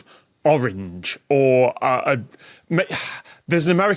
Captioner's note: sighs